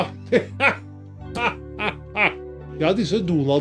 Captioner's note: Santa Claus laughs